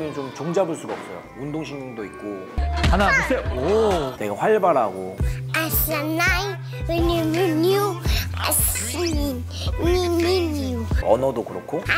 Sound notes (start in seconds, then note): 3.4 boom